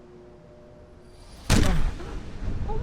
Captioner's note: eerie music; gunshot fires